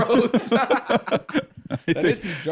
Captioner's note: both laughing